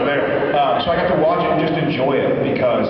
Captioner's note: laughs; laughs